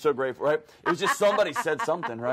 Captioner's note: host laughs